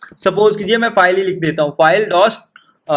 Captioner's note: echo